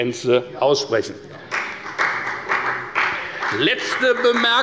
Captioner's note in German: Beifall bei der FDP